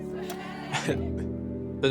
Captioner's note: laughing